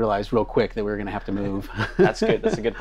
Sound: laughing

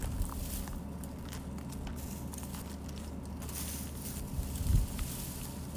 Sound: crunching continues; footsteps on gravel

